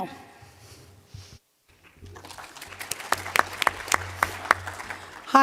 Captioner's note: applause